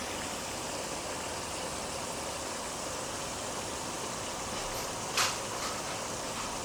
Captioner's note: sizzling